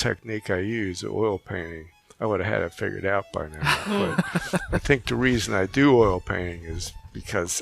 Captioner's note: laughing